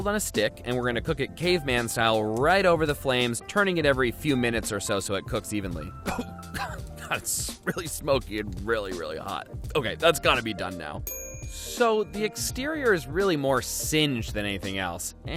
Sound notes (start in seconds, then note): 6.0 coughs